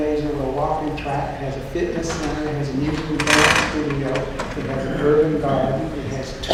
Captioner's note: creaking